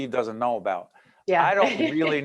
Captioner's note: laughing